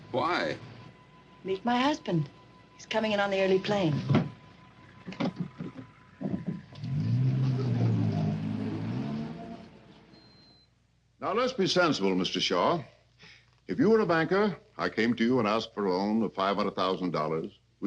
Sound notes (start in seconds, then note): 7.2 car engine revving